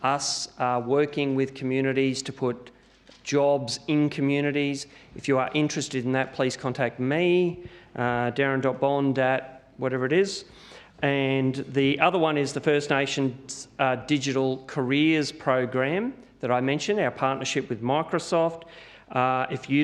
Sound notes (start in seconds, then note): none